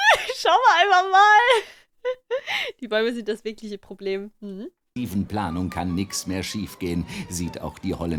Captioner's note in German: lacht